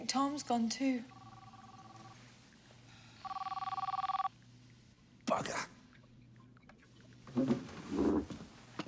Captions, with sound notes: - I think Tom's gone too. (ringing) - Bugger!